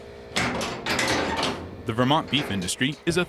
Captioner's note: latch clanging